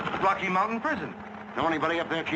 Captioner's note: pat